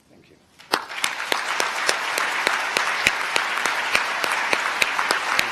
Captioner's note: applause